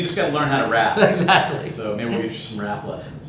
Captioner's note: laughs